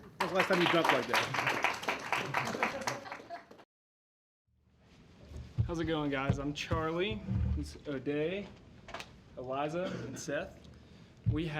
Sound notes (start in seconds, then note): 1.7 laughter, applause